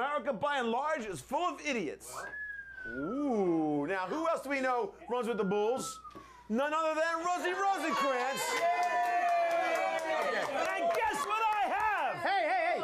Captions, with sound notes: AMERICA BY AND LARGE IS FULL OF IDIOTS. OOOOH! NOW WHO ELSE DO WE KNOW RUNS WITH THE BULLS? NONE OTHER THAN ROSIE ROSENKRANTZ. [Audience cheers]